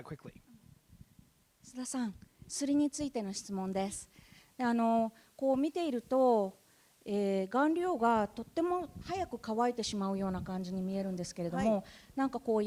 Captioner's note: speaking japanese